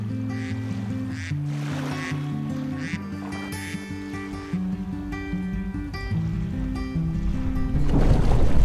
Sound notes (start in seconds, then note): 0.1 duck sounds